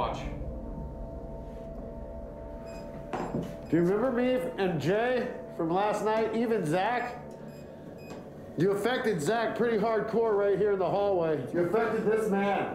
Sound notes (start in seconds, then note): 0.2 suspenseful music playing; 2.5 beeps; 6.8 beeps